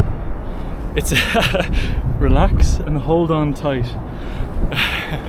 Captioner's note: laughs